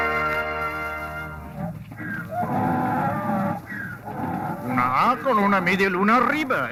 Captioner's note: dramatic music; speaking in foreign language